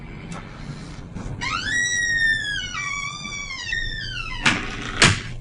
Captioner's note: door creaking